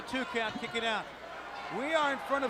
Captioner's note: crowd chatter